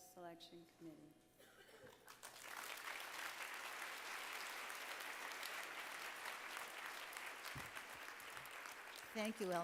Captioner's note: applause